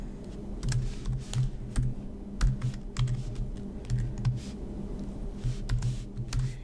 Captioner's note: typing